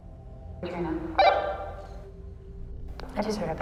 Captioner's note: walkie-talkie blips